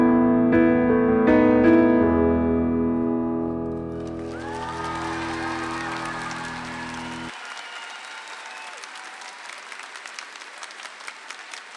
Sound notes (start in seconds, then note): 0.0 gentle piano music; 3.7 audience applauds